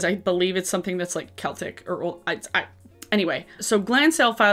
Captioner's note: stammers